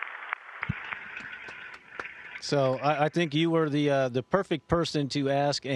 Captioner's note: applause